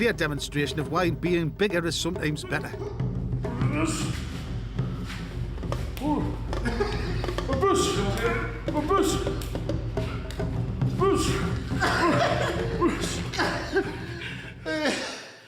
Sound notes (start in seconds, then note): 5.9 both grunting; 6.0 laughs; 12.7 Dave laughs